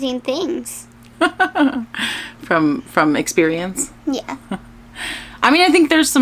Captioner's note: laughs